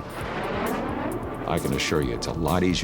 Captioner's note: aircraft roaring